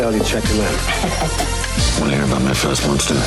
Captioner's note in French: rire distordu